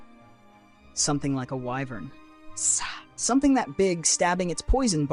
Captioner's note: sigh